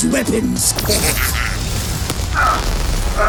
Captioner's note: laughs